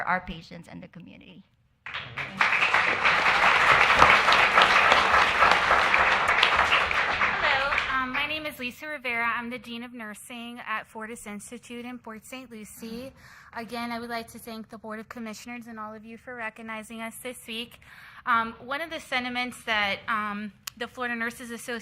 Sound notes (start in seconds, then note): 6.5 applause